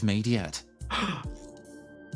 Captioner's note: gasp